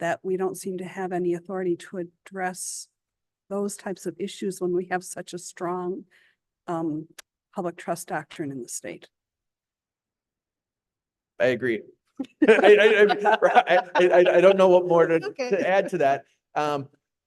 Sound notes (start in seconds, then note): 12.2 laughter